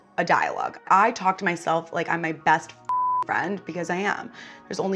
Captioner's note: beep